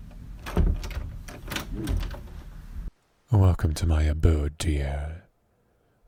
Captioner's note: door opens